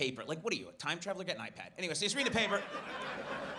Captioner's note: audience laughs